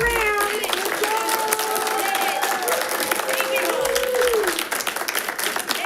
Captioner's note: audience clapping and cheering